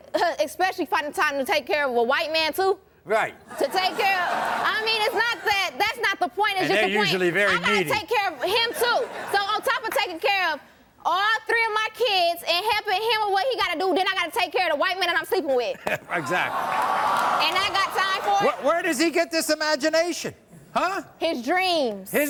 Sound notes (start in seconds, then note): 16.1 crowd cheering